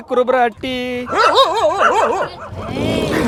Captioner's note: dog barking loudly; aggressive growling